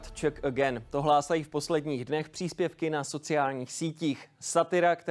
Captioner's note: A man in a suit says something in Czech